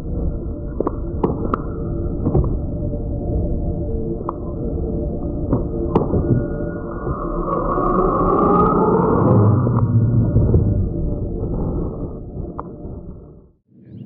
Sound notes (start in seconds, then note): 0.1 wind whistling; 3.0 air humming; 6.1 wind howling; 11.5 air whooshing